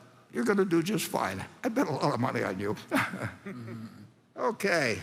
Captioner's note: laughs